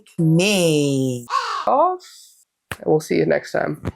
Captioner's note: caw